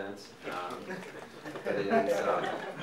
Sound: audience laughing

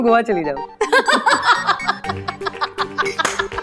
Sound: all giggling

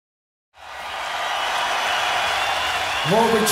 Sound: audience cheering

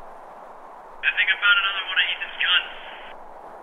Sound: two-way radio

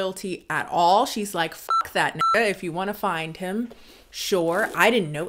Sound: beep

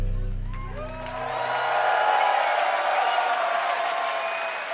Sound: audience cheering

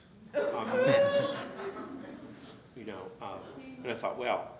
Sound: audience laughs

